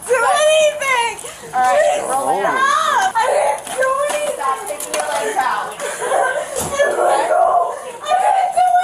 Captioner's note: crying